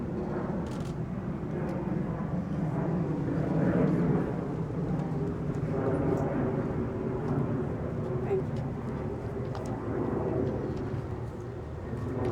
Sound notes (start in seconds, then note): 1.0 camera clicks